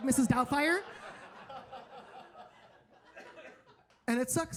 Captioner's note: audience laughing